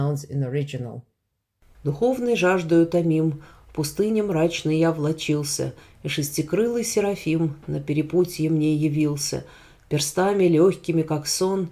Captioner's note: russian verses